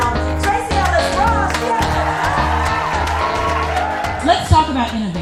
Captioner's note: clapping and cheering